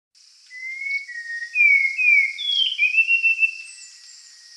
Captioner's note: Spot-wing thrush singing